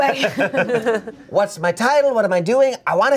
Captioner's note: everyone laughs